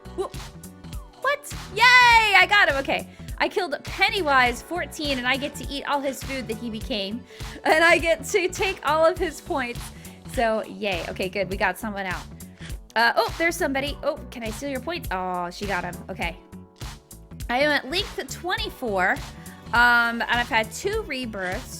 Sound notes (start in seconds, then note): 7.2 laughing